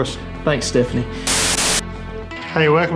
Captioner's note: static breaking